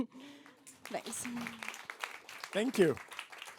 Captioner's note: applause